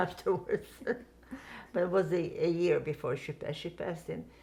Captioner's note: laughing